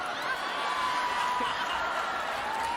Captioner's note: laughter